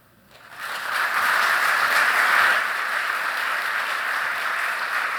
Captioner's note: audience applauding